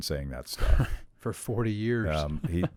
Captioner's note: laughs